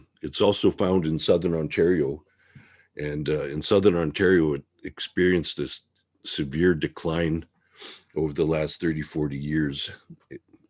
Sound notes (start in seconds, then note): 7.7 sniffle